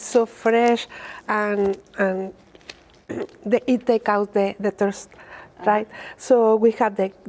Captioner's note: clears throat